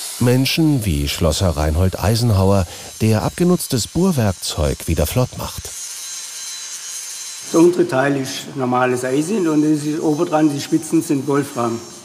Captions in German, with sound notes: Menschen wie Schlosser Reinhold Eisenhauer, der abgenutztes Bohrwerkzeug wieder flott macht. (Schleifgeräusche) Der untere Teil ist normales Eisen. Und oben dran, die Spitzen sind Wolfram.